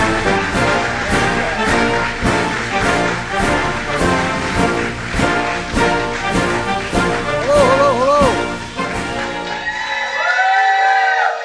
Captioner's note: applause